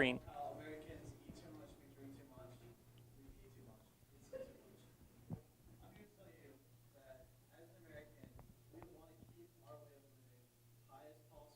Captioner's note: background Discussion